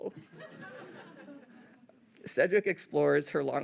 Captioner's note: audience laughing